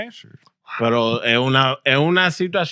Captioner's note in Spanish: Hablando en idioma extranjero